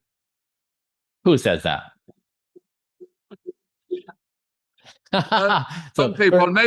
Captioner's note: he laughs